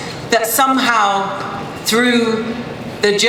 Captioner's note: none